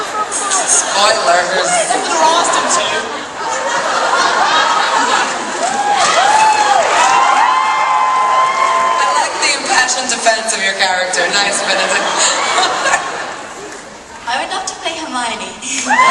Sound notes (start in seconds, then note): 5.4 audience cheering